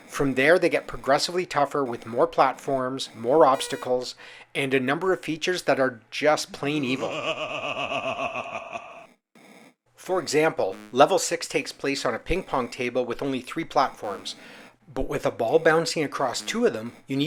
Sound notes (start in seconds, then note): 6.8 evil laugh